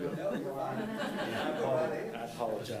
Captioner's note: faintly speaking; attendees laughing